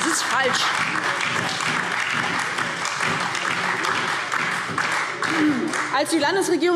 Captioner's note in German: Beifall DIE LINKE, SPD und Freie Demokraten